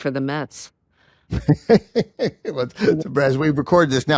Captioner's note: chuckles